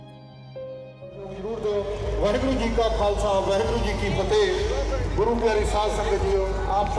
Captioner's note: public address announcement